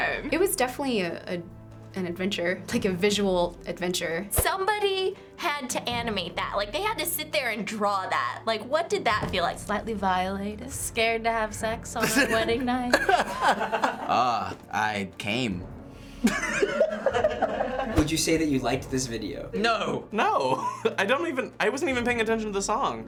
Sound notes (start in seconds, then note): 12.0 laugh; 16.2 Finebros laugh; 16.3 bursts out laughing